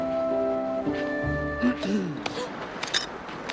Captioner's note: gasp